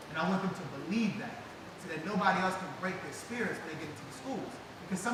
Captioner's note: none